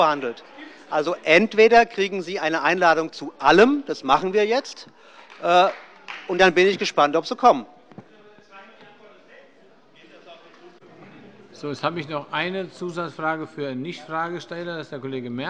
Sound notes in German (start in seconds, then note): 5.1 Beifall bei Abgeordneten der SPD